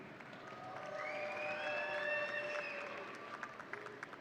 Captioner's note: audience cheering